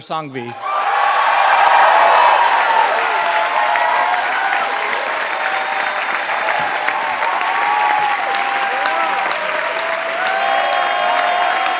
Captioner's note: applause